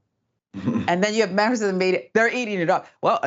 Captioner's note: laugh